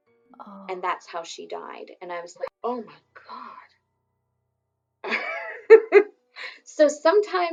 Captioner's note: laughs